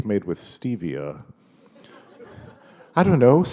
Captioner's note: laughter